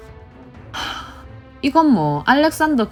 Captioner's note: sigh